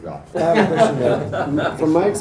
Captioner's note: laughing